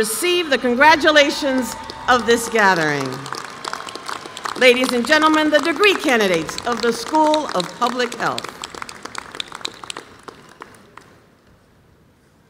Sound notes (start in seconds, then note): 3.1 applause